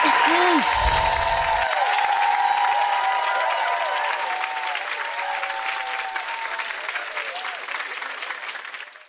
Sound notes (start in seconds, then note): 0.2 cheering and applause; 0.7 twinkling sound